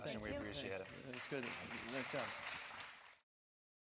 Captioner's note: applauding